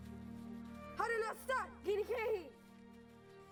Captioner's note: Spoken Cherokee